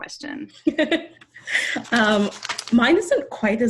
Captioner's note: laughs